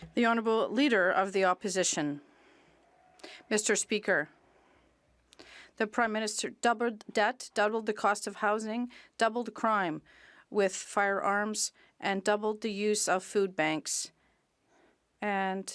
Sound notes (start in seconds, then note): 2.7 speaking French